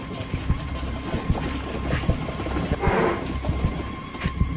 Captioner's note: boxes shaking continues